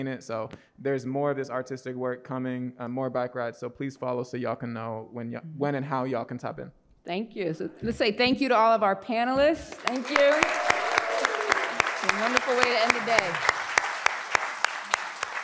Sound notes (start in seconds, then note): 9.7 audience applauds